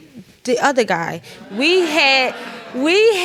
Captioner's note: audience groans